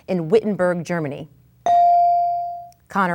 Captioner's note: bell dings